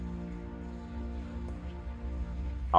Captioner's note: leaking gas sound effect